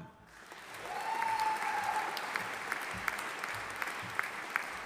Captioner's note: audience applauding